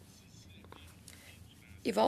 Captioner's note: speaking French